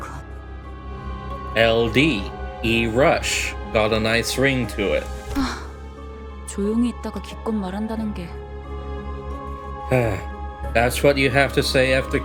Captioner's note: sigh